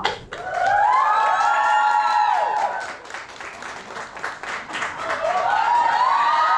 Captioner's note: audience applauding and cheering